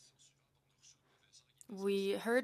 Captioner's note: speaking in French